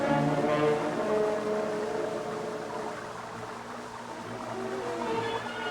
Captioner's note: water trickling